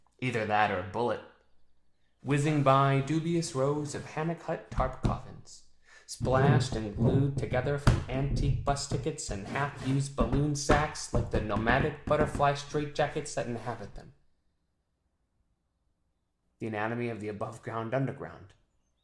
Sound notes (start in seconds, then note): none